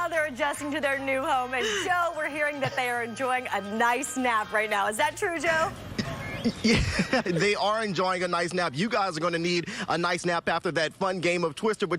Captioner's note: laughter